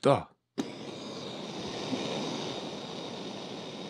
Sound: torch sounds

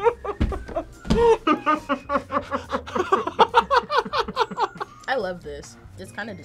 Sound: both laugh

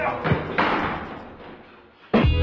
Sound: whump!; cracking up; synthpop

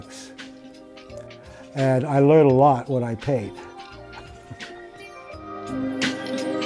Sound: laughs

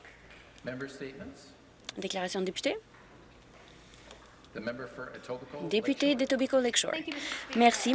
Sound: some Applause

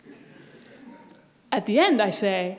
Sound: audience laughs

